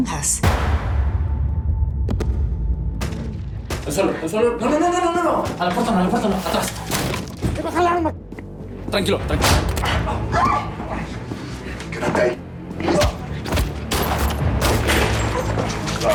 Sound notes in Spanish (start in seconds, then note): 0.5 Disparo; 2.8 Disparos; 9.3 Disparo; 10.2 Grito; 13.4 Disparos